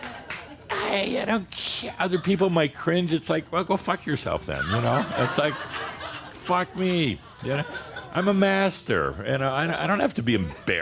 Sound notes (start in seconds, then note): 0.0 laughter and applause; 2.6 Adamus chuckles; 4.6 more laughter